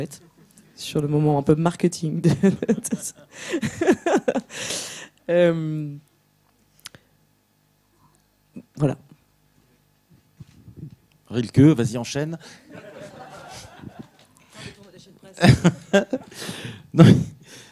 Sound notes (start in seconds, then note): 2.3 laughs; 12.7 laughs